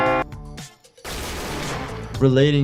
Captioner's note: bell rings somberly; gun fires